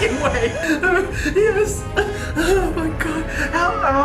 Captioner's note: coughing; weeping